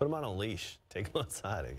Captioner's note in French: laughter